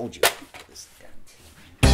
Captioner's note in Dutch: mompelt kwaad; vrolijke reggae